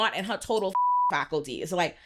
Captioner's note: beep